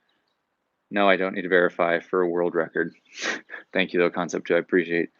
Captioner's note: chuckles